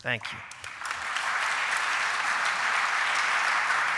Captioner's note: applause